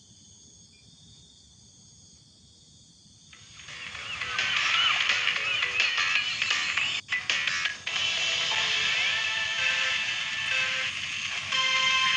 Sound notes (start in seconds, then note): 4.2 clap